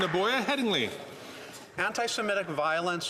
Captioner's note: some Applause